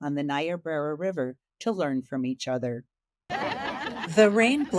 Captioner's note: attendees laughing